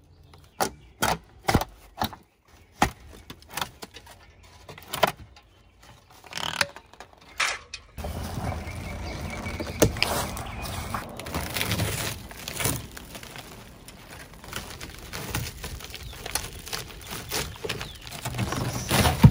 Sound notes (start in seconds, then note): 9.8 rope snapping; 11.4 wood chipping and breaking